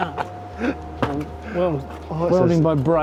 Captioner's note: laugh